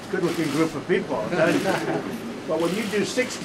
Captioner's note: laughter